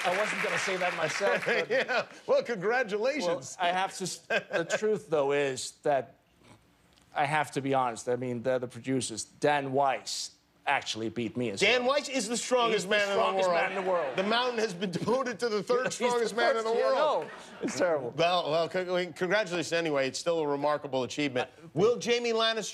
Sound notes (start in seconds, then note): 0.0 applause; 1.8 cheers and applause